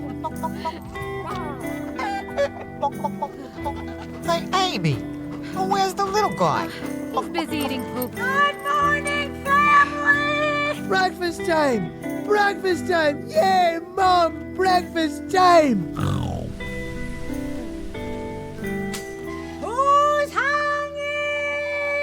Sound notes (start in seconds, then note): 0.2 chickens clucking; 3.3 Amy sighs; 15.7 wistful guitar music; 15.9 Otis snorts